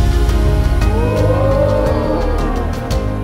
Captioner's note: student cheering